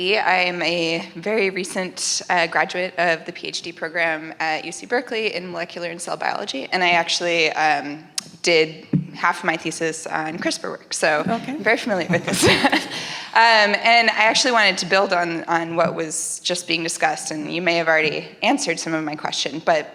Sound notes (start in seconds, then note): 11.9 laughs